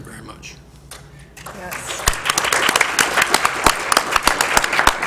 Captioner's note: applause